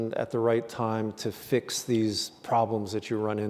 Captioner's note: none